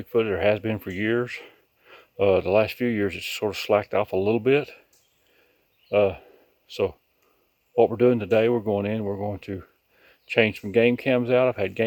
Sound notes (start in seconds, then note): none